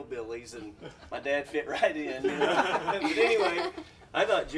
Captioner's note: all laughing